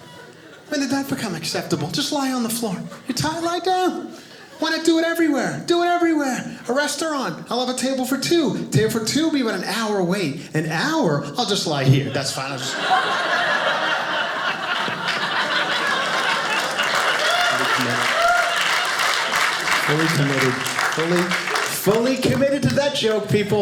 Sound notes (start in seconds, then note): 12.3 audience laughing; 16.3 audience applauding